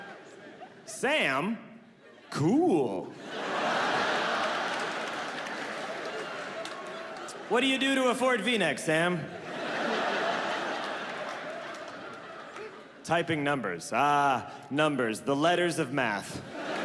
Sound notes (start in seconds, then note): 3.5 audience laughs; 9.1 audience laughs